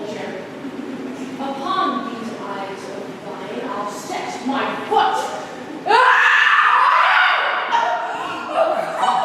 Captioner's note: Gloucester screams in agony